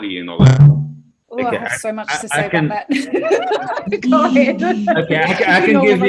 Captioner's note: laughter